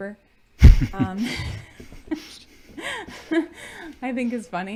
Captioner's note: both chuckling